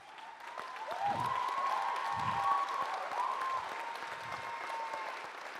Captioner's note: audience cheers and applauds